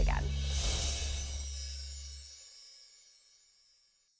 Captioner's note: chiming